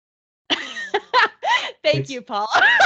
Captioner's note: laughing